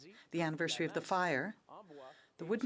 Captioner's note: speaking French